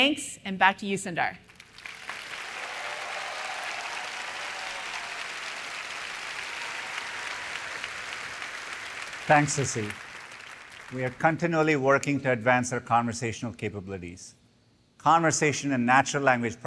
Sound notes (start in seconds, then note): 10.7 applause